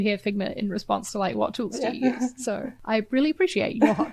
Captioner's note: chuckles